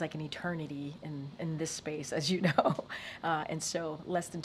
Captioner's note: laughs